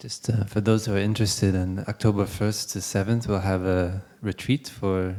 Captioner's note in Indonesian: none